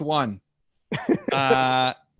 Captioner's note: laughs